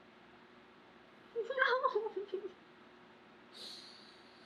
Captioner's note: laughs